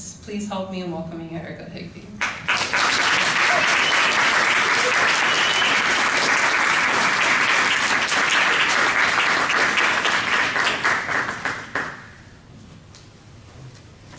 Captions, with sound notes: Please help me in welcoming Erika Higbee. (applause)